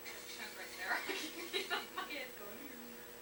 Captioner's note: laughs